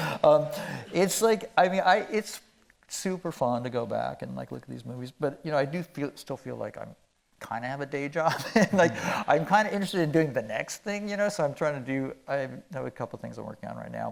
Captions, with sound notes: It's like, I mean, it's super fun to go back and like look at these movies, but, you know, I do still feel like I kind of have a day job. (chuckling) Like I'm kind of interested in doing the next thing, you know. So I have a couple things I'm working on right now,